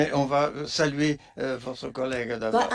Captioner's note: speaking French